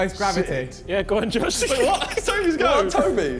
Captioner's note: giggles